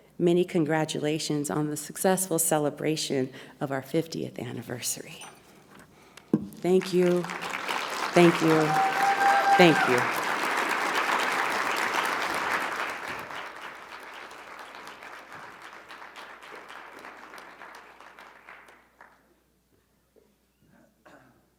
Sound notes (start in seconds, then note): 9.9 audience applauding; 9.9 audience cheering